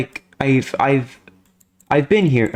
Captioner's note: stutter Moment